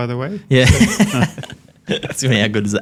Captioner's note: laughs